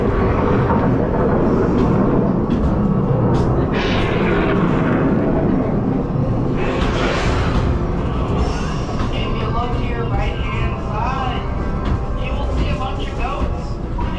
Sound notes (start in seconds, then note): 0.0 thunder booms and lightening crashes; 0.0 thunder